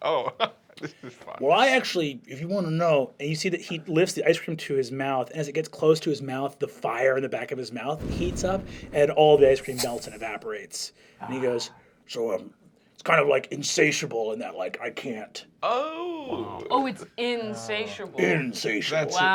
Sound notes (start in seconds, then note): 0.0 laughs; 3.4 normal voice; 8.0 sound of roaring flames